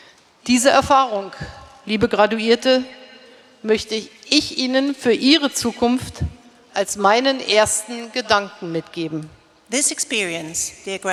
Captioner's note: speaking in German